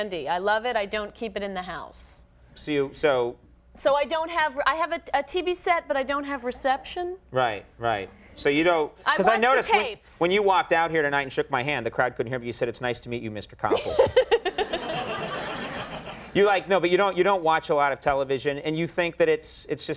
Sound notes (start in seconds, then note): 13.7 Cynthia giggling; 13.7 audience laughing